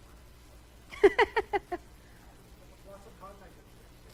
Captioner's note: laughing